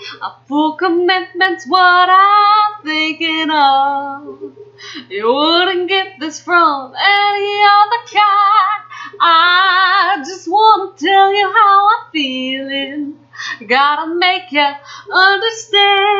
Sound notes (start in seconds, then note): 4.7 breathes